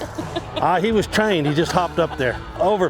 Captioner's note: bystander laughs